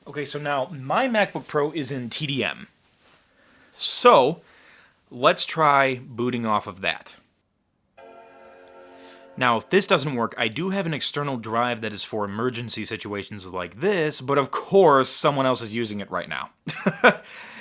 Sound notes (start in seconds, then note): 8.0 startup sound; 16.6 laughing